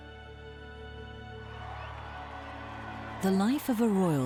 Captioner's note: crowd cheering and applauding